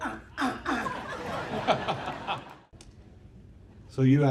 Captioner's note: audience laughing